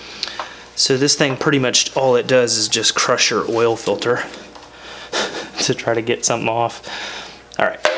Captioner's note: haha